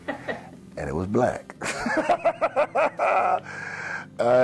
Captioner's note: laughs!